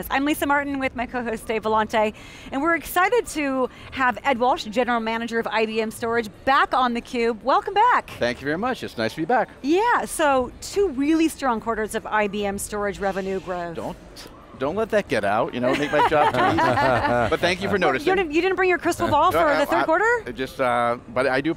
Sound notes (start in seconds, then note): 15.6 laughs